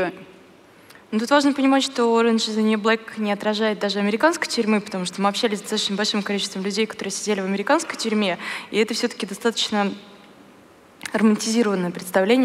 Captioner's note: foreign Language